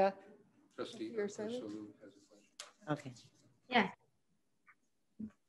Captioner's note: faintly speaking